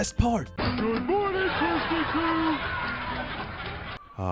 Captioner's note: laugh track plays